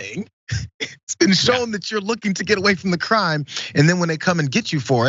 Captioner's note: laugh